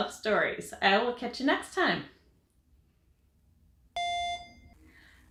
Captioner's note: audible beep